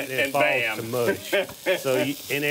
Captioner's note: laughs